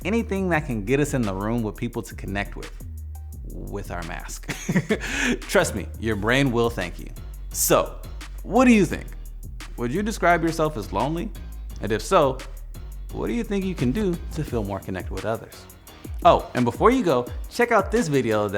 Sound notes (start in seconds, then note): 4.4 laughing